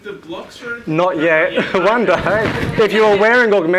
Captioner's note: laughs